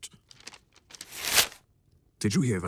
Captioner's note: paper rips again